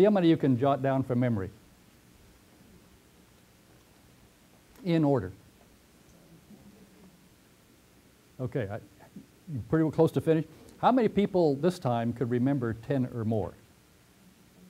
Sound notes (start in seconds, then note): 3.2 pause; 6.4 pause